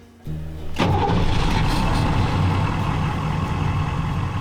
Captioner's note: truck engine starting